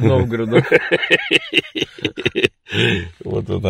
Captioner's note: very strong laughter